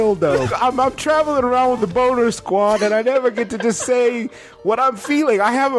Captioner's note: giggles; laughter